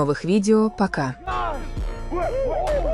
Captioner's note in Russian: ликование